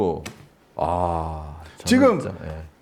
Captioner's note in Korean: 감탄